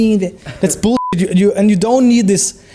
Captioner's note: beep